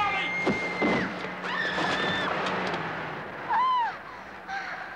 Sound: Molly screams

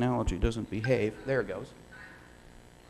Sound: audience laughing; speaking, recorded

